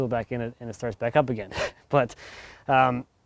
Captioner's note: chuckles